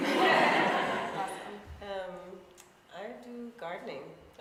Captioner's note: laughing